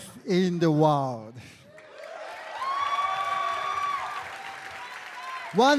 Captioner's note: crowd cheering